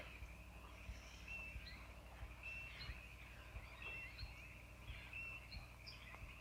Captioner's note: frogs croak and crickets chirp